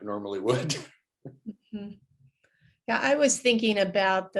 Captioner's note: laughs